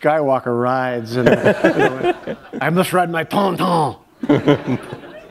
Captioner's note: laughter